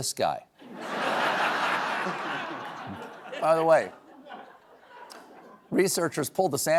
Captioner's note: laughter